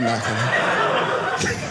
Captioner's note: audience laughing